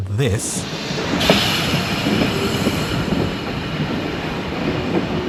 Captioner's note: very distinctive air brake sound